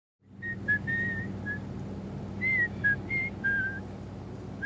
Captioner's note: man whistling